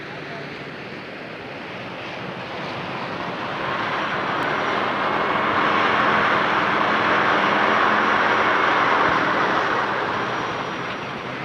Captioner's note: traffic noises